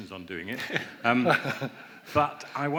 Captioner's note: laughs